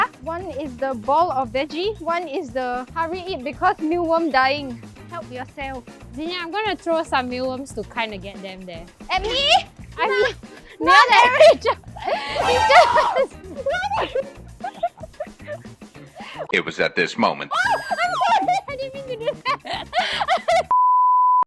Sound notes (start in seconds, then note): 12.1 horrified screams